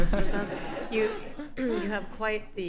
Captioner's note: everyone laughing